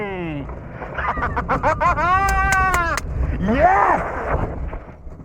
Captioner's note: laughing with joy